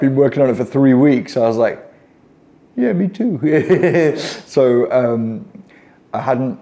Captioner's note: laughing